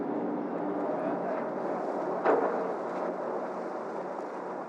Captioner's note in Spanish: Ruido del barco